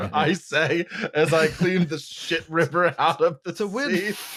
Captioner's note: laughter